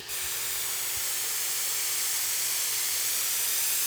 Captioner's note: nozzle hissing